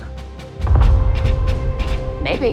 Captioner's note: muffled explosion